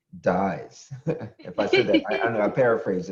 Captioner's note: chuckle